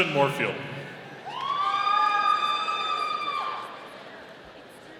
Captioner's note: audience cheering